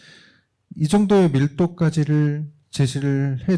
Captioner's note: speaking korean